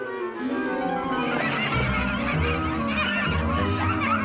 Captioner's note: phantom laughing